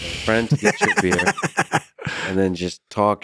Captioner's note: laughs